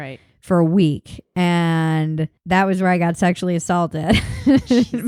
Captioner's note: laughs